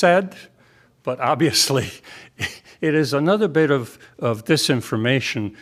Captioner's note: laughter